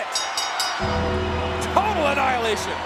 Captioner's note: bell dinging; bell tolling